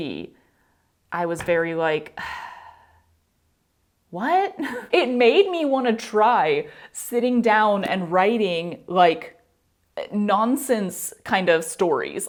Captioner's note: sigh